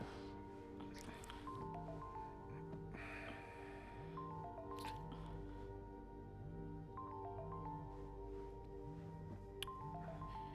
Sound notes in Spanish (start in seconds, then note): 0.1 sonido de móvil; 1.5 suspiro